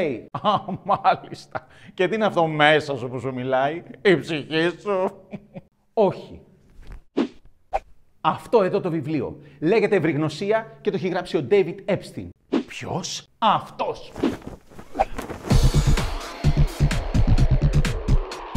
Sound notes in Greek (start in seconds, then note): 0.3 Γέλιο; 5.1 Γέλιο